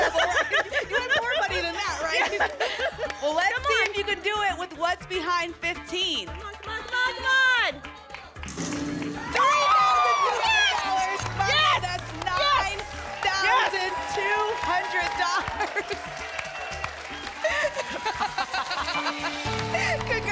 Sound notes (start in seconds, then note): 0.0 laughter; 14.3 applause and cheering; 17.4 laughter